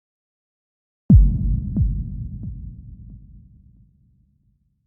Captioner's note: low thumping